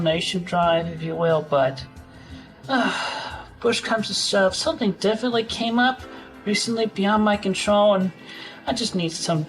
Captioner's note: sigh